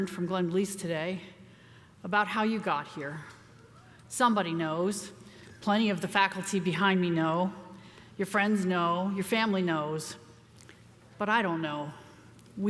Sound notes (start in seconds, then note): none